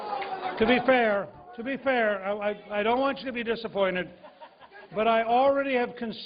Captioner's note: applause